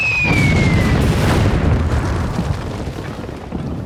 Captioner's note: bomb explodes